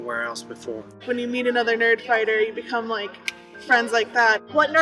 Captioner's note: snap